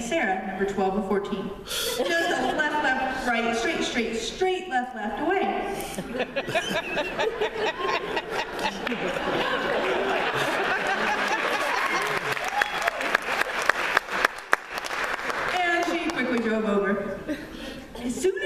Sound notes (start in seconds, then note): 1.8 laughter; 5.8 laughter & applause